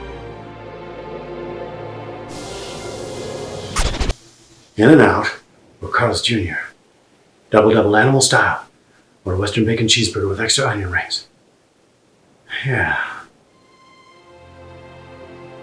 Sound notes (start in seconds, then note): 3.6 record scratches; 13.6 dramatic music